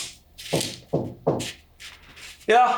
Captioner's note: door knocking